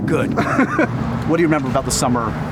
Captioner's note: laughing